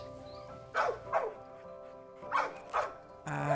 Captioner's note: dog barking